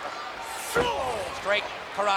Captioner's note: Hulk groans; fist thuds